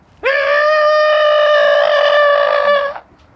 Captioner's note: screaming